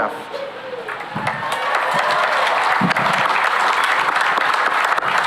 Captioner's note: cheering and applause